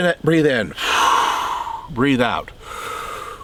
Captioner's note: inhales; exhales; inhales